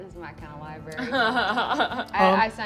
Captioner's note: laughing